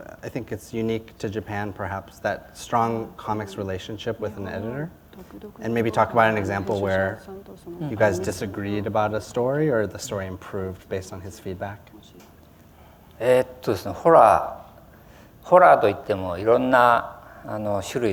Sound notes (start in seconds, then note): 11.7 foreign language